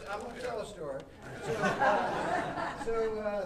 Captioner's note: audience laughing